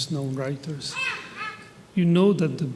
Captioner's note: baby vocalizing